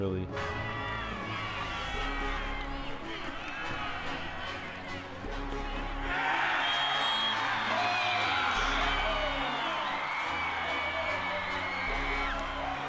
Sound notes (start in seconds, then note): 0.3 fans cheering; 6.1 players cheering